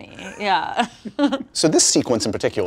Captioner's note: both laugh